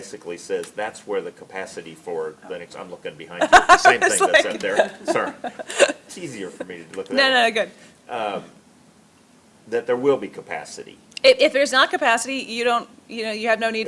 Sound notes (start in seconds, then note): 3.4 laughs